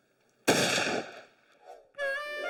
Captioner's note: gun shot